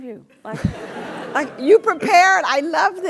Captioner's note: laugh